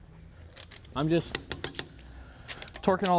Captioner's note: tool clacking